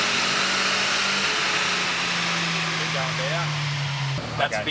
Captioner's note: engine decelerates